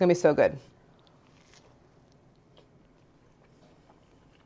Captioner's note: bread crunching